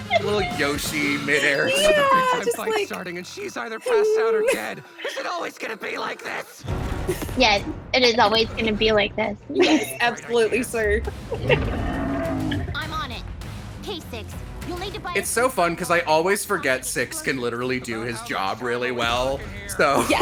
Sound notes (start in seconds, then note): 4.2 laughs